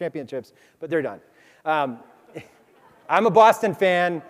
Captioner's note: crowd laughs